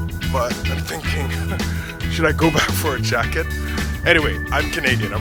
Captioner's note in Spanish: ríe